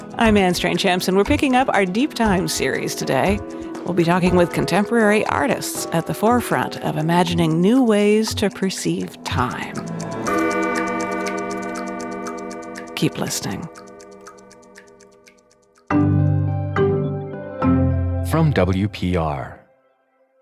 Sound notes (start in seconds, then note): 9.6 bell tolling; 11.5 clock ticking